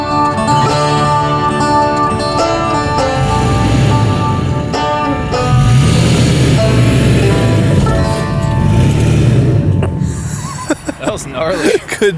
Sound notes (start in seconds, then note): 3.7 car engine revving; 9.8 laughing